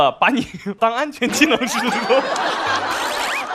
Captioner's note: laughed at himself